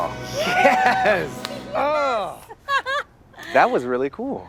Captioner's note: laughs; hands clap